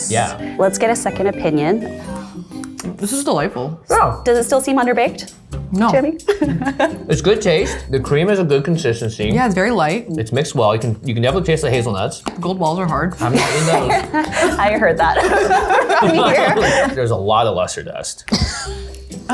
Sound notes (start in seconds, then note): 6.0 laughing; 12.3 crunching; 13.2 laughing; 18.3 laughs